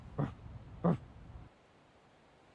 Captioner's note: jim barks